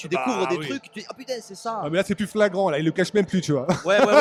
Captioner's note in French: rires